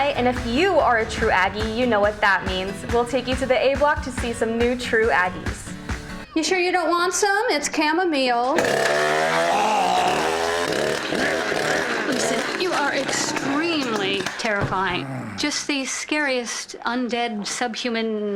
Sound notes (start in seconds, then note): 8.5 chainsaw revving